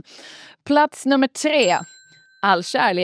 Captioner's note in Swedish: ding